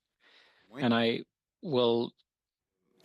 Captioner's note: speaking French